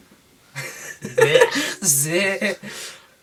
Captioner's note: bleghs in belief that it is metal